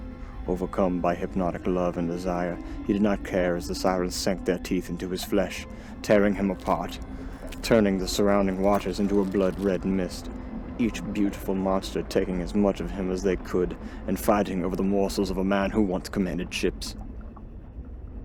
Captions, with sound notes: Overcome by hypnotic love and desire, he did not care as the sirens sank their teeth into his flesh, tearing him apart, turning the [biting and ripping] surrounding waters into a blood-red mist, each beautiful monster taking as much of him as they could and fighting over the morsels of a man who once commanded ships.